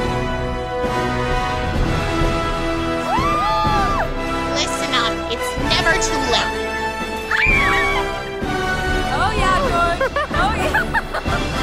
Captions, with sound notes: (cheering) - Listen up, it's never too late. (screaming) - Oh yeah, George, oh yeah.